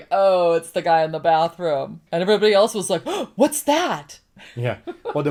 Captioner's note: gasp